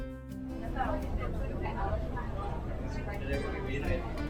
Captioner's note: passengers chattering